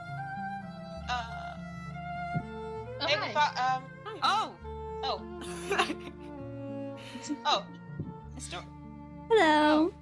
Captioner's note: voices overlap in surprise